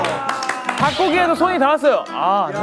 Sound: complaining

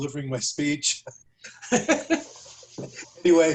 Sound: laughter

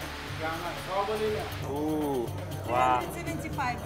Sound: speaking foreign language

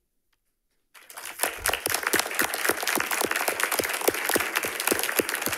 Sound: audience applauding

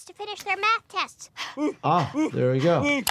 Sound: Lisa breathing, Homer grunting

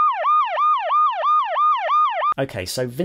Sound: siren

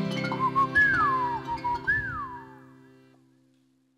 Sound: singer whistling

